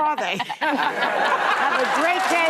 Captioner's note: audience laughing